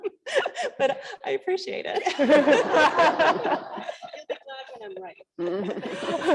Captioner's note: laugh